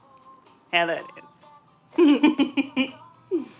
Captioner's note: laughter